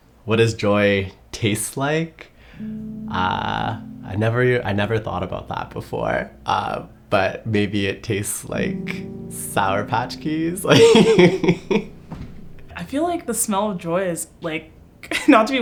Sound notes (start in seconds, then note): 2.6 gentle music; 10.7 laughs